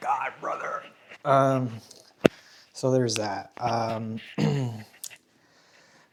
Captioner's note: clears throat